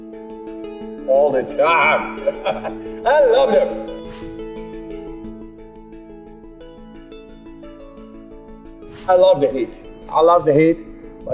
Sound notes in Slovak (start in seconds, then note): 1.6 smiech